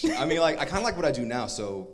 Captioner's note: laughs